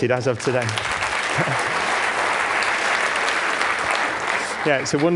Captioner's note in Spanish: Aplausos